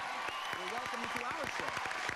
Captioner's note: crowd cheers